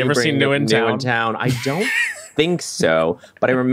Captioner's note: laughs